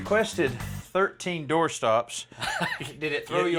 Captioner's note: chuckling